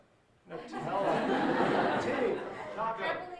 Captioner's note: audience laughing